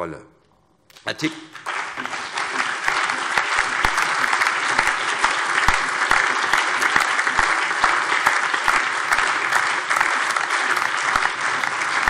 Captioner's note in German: Allgemeiner Beifall